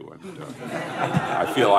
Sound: laughter

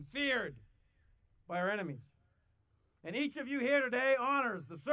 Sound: none

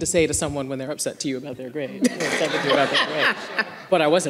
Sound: everyone laughing

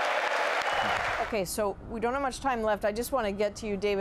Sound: applause

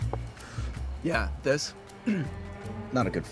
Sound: clears throat

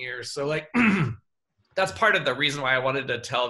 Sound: clears throat

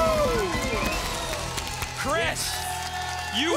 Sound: audience applause

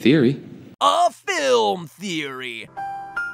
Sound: MatPat voice

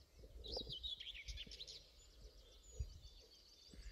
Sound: birdsong

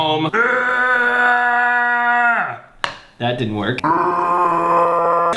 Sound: groans

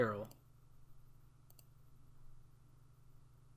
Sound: end of audio

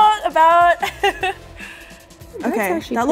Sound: laughs

